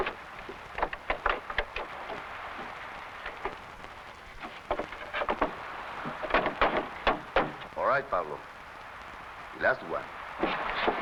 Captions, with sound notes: (handle pounding) - All right, Pablo. Last one.